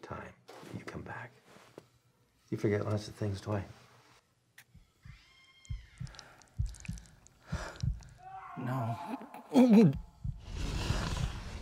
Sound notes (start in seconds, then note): 5.6 heart beat pulses; 7.7 groans